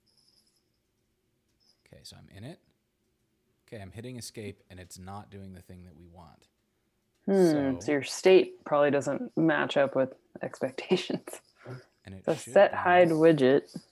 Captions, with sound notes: Okay, so I'm in it. Okay, I'm hitting escape and it's not doing the thing that we want. - Hmm, so your state probably doesn't match up with expectations. (laughs) - And it should be this-- - The setHideWidget.